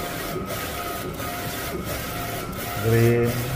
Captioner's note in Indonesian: suara mesin printer